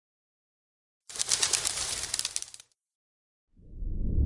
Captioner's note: wings flutter; ambient music